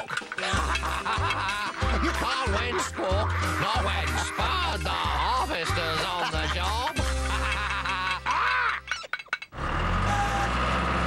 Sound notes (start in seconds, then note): 1.5 laughing; 7.5 laughter